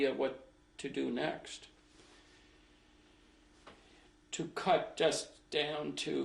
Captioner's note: pauses for 3 seconds